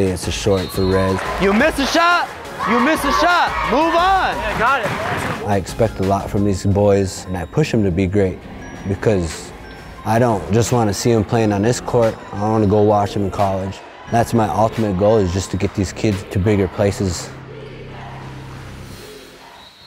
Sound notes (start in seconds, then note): 17.8 crowd